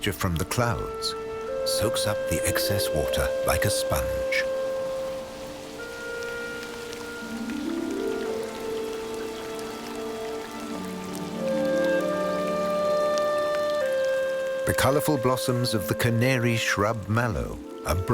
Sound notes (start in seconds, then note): 6.0 light music; 6.0 water pattering